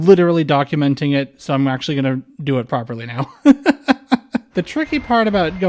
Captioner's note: laughter